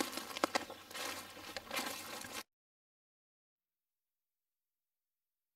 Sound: leaves and twigs crunching

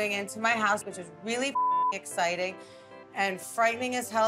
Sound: beep

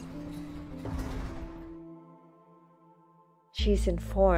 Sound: door slides

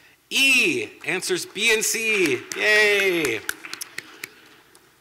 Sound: yay, clapping

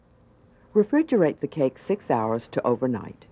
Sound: voiceover

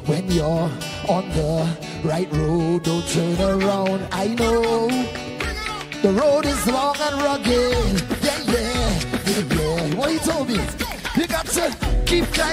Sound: cheering/Applause

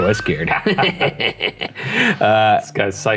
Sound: both chuckling

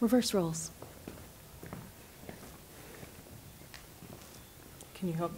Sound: footsteps and shuffling

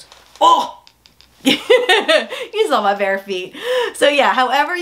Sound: laughs

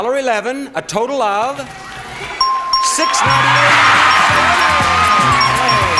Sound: bell dinging

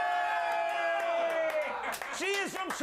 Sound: audience cheering

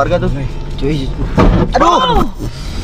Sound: bump

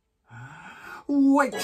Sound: deep Inhale

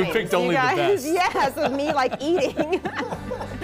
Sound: laughter

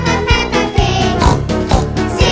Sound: snort snort

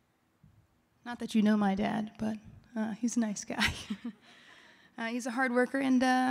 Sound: laughing

